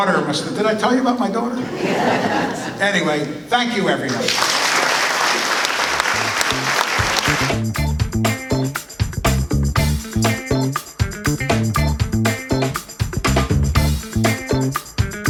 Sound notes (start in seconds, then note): 4.0 applause